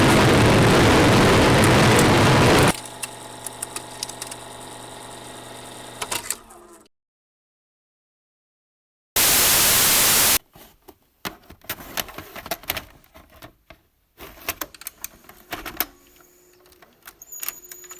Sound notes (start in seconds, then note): 0.0 static; 5.2 click; 9.2 static